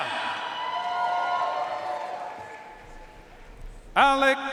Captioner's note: audience cheering and applauding